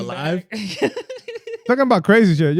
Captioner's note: laughing